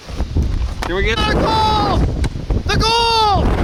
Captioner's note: wind blowing